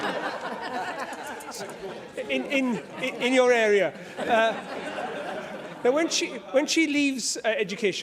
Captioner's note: laughter